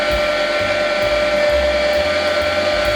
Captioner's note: grinding